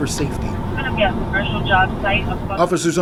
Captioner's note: police radio chatter